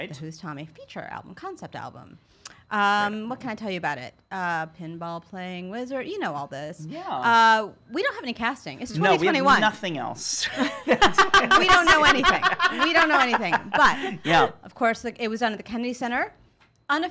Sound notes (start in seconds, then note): 10.6 laughs